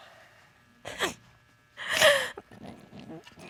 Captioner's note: sobbing